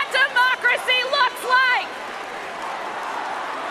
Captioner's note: cheers and applause